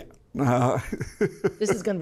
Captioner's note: laughs